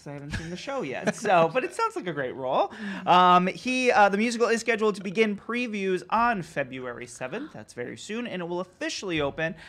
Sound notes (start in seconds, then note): 1.2 laughing